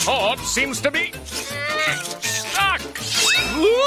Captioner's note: grunting